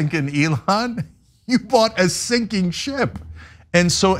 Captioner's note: laugh